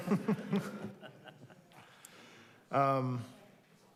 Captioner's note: group laughing